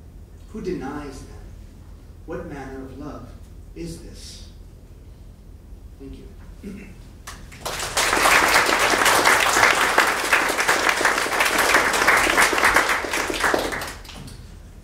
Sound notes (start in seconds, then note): 6.5 clears throat; 7.3 audience applauding